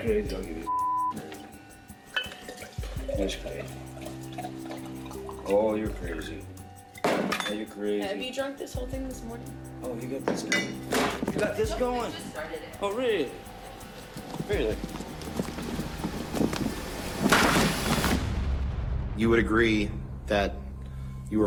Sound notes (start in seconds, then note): 10.8 camera banging